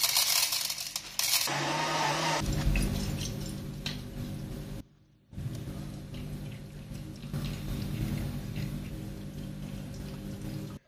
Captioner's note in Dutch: Koffie zettende geluiden